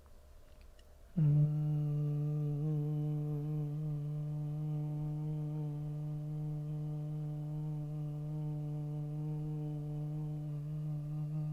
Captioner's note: humming